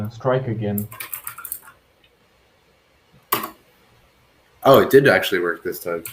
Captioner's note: keyboard clacks